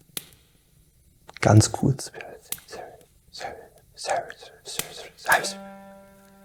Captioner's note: whisper